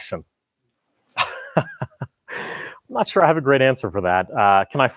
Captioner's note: laughs